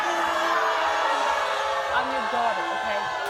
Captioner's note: crowd boos